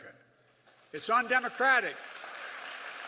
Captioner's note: applause